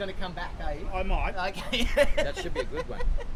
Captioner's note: laughs